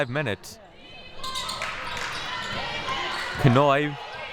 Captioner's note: clapping